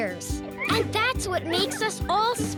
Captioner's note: background laughter